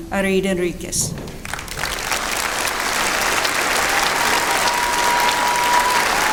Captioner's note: applause